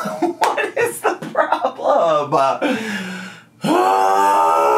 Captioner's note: laughs; groans